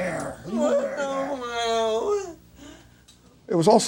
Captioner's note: man whimpers